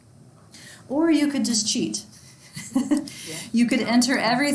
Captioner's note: chuckles